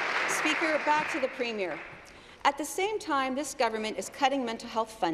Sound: applause

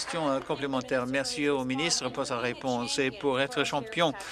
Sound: applause

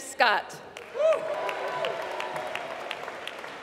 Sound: applause

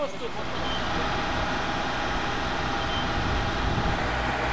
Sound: firetruck whirring

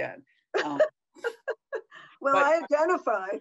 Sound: laughs

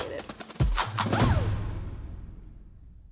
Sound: woo sound effect; music plays out

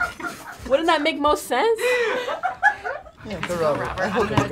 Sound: React laughing

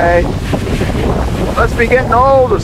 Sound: shouting; wind roaring; shouting

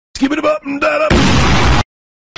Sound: boom!

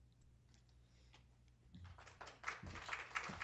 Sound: applause

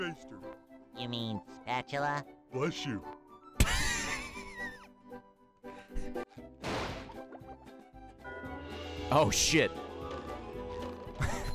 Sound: laughs

